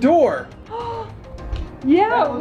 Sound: gasps

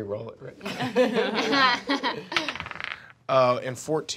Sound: laughing

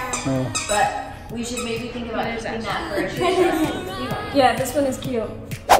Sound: dog biting squeaky toy

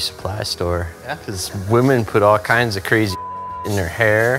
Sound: beep

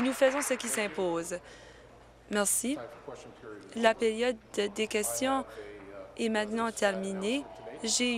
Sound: applause

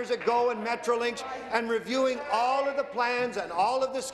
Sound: applause

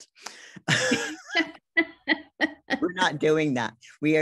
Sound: both laugh

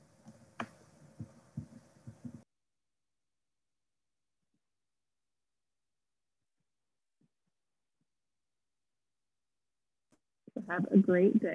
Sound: silence

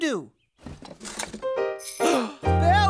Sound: gasp

